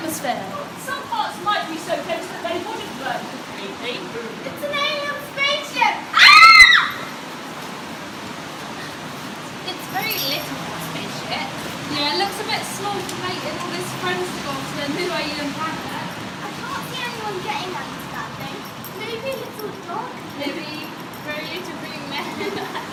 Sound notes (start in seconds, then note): 6.1 screams